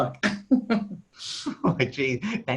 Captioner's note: laughs